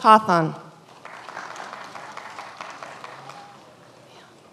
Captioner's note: many applauding